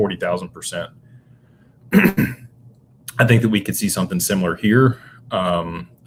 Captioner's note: clears throat